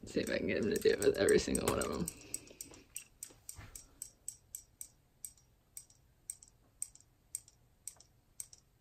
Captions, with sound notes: See if I can get them to do it with every single one of 'em. (toy clicks)